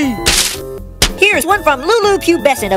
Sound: paf

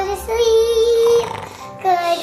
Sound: snoring

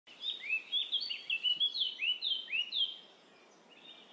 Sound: birds chirping

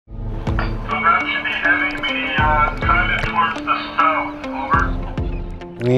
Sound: radio chatter

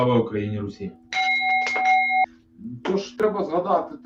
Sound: jin-sound of a bell

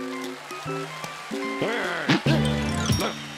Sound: cheers and applause; grumbling

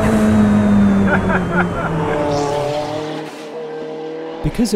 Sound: roars; car engine roars; laughs

